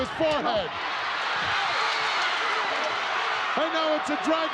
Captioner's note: crowd cheering